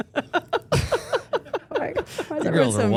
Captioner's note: Steph laughing